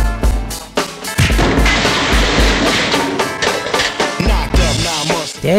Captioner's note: door crashes open